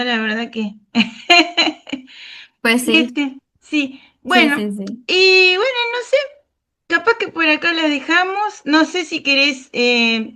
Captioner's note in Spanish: risas